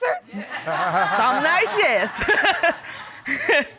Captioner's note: laughs